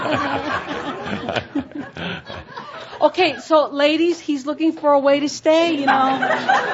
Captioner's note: more laughter from audience and Tobias